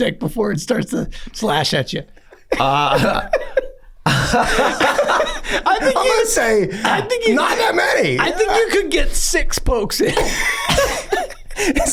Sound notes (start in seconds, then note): 2.2 Rob laughs; 3.8 Glenn laughs; 10.0 gang laughing